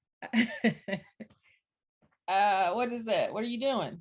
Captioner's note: chuckles